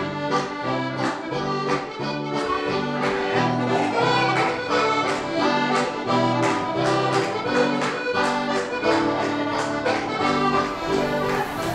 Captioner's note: lively accordion and guitar music; lively music; clapping